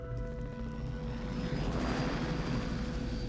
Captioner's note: helicopter passes